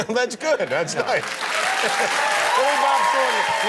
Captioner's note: applause